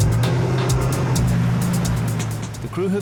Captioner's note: upbeat music; boat engine revving; upbeat music